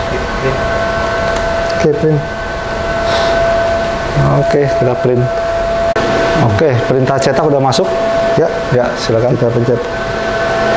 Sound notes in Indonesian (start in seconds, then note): 0.2 suara mesin; 3.0 menghembuskan nafas